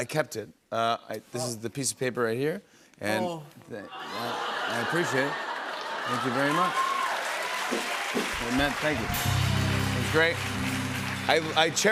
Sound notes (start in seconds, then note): 6.8 cheers and applause